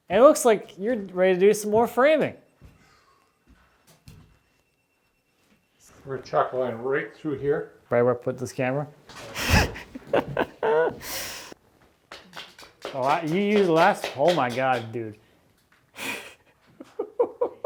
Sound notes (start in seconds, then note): 9.2 laughs; 16.7 laughs